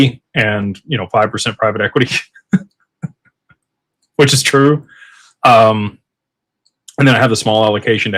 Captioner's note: laughter